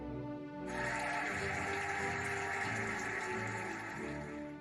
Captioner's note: cheering and applauding